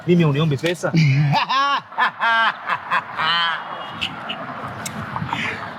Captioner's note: laughing